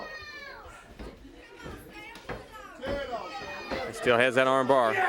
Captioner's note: crowd chatter